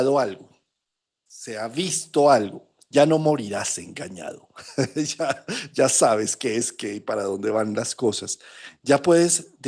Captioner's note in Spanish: risas